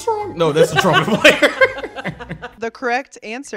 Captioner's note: laughing